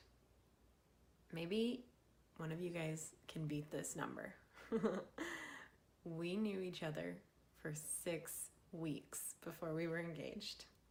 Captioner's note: giggle